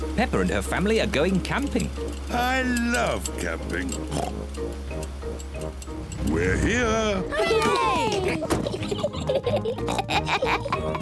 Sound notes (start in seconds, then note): 6.2 oinks; 6.3 all cheer; 8.0 both laugh